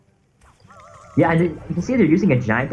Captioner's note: game sounds